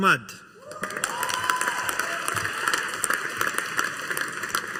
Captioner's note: audience applauding